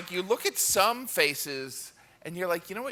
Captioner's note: cheering